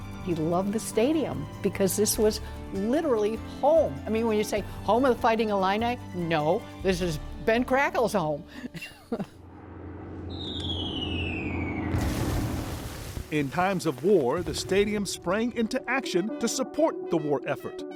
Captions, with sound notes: He loved the stadium because this was literally home. I mean, when you say, ‘Home of the Fighting Illini’, no, this is Ben Crackel’s home (CHUCKLES). (PLANES FLYING, BOMBS EXPLOADING) In times of war, the stadium sprang into action to support the war effort.